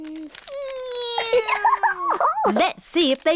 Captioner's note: snorts; imitates aeroplane sound; giggles